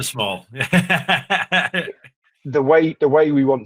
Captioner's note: laughs